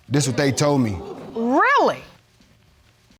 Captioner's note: audience exclaims